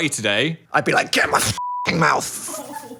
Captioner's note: beep